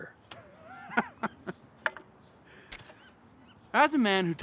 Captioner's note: Isaac laughs